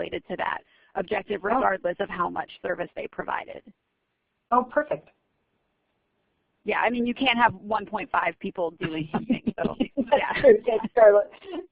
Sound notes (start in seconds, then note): 9.1 laugher